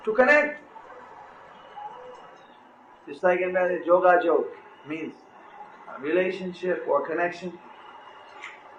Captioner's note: in Bengali